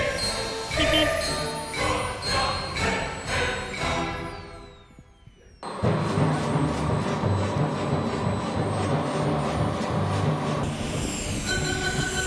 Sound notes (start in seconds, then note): 5.6 jet engine roaring